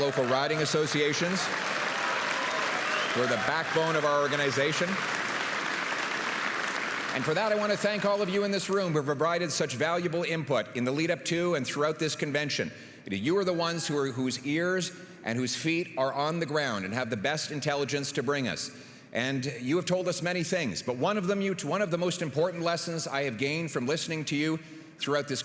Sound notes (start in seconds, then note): 7.1 applause